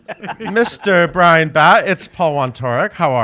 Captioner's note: laughs